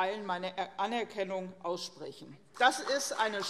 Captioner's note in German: Beifall CDU und BÜNDNIS 90/DIE GRÜNEN